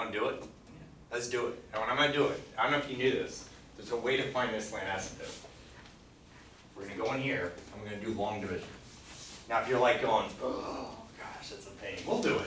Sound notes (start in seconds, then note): 1.3 voiceover